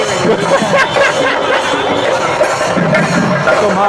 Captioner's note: loud drum procession; laughing